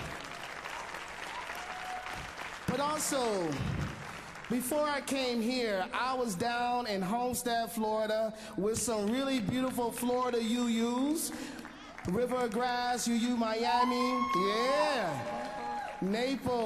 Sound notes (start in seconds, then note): 5.6 applause